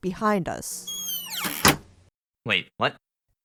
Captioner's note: door creak and click